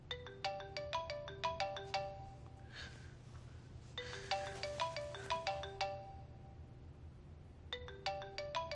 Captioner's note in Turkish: Telefon çalar